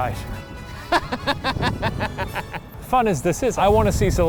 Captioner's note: laughing